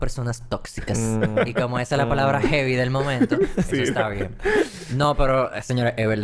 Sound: laughs

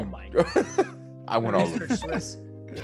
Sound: laugh

